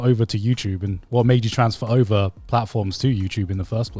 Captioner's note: none